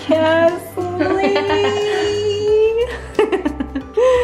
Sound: laughing

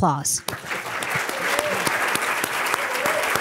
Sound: applause

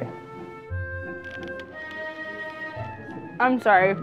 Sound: foil wrapper crinkling

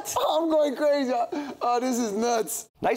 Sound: chuckles

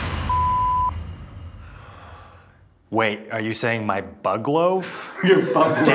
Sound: beep

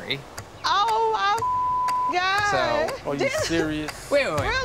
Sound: beep

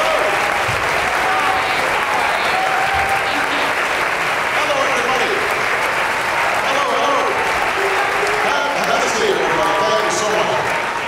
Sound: applause

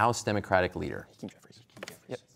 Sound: whispering

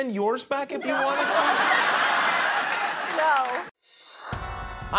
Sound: laughs

